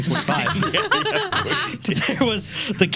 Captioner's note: laughing